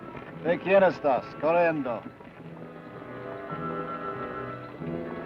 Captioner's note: Ben speaks foreign language